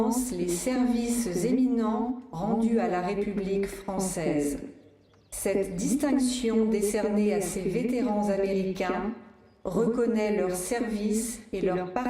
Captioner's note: speaking french